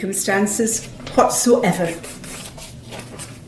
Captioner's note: rustling of paper